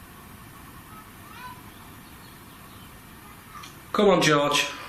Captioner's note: child chattering